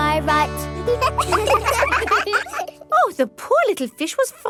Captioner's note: children laugh